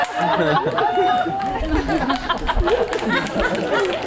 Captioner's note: audience applauds; audience laughs; fingers snapping